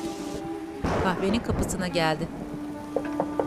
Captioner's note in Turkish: Yağmur sesi; Gök gürültüsü sesi; Kapı tıklanma sesi